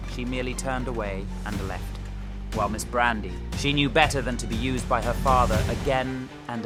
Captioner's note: none